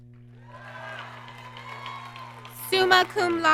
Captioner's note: applause